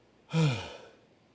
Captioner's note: sigh